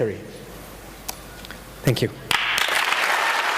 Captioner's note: audience applausing